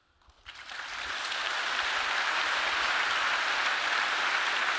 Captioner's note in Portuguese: público aplaudindo